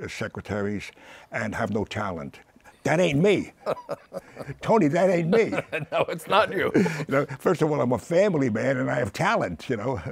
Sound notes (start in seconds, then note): 3.5 laughs